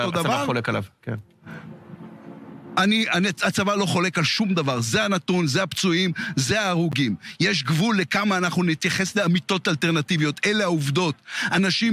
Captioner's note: speaking in Hebrew